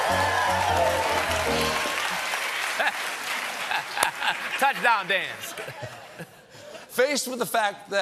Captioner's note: cheers and applause